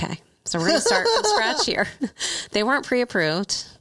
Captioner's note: laughing